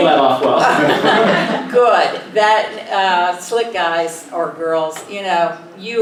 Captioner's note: laugh